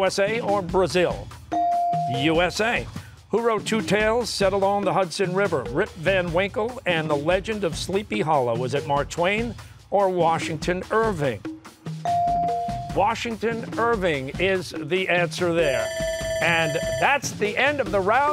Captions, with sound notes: U.S.A. or Brazil? U.S.A. Who wrote two tales set along the Hudson River, "Rip Van Winkle" and "The Legend of Sleepy Hollow"? Was it Mark Twain or Washington Irving? Washington Irving is the answer there. (bell ringing) And that's the end of the round.